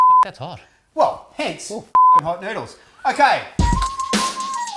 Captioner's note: beep